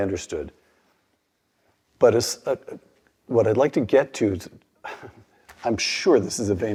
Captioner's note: laugh